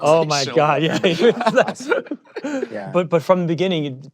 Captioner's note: laughter